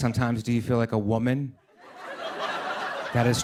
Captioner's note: laughter